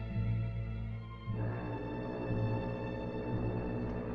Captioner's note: foghorn Blows